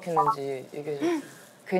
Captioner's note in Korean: 복화술로